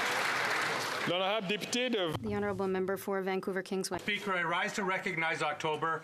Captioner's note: some Applause